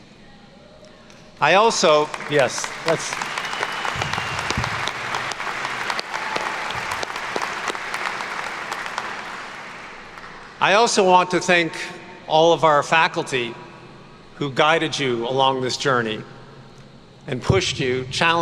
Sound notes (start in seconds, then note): 3.5 attendees clapping